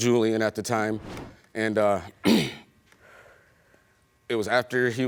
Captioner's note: clears throat